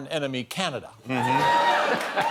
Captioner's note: laughter